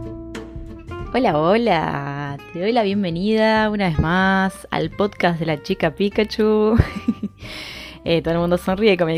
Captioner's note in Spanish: risas